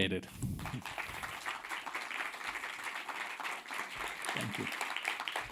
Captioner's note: audience applauding